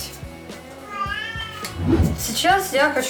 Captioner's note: meow